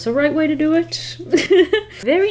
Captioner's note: laughs